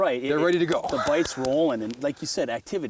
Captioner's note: voiceover